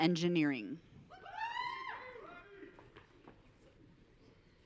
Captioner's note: audience cheering